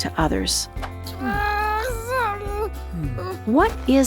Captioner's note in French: Animal en sanglots